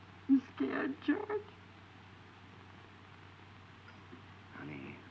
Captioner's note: sobs